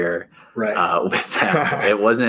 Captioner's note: chuckles